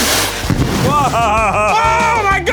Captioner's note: explosive booming; sparks flaring